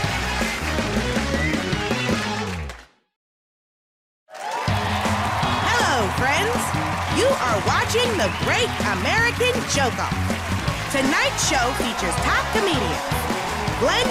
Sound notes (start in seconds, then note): 5.7 cheers and applause